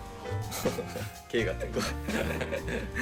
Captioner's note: laughs